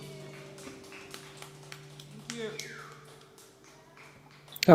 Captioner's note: applause